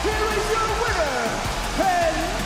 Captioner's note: bell rings; crowd cheers